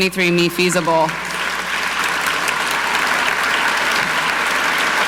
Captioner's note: audience clapping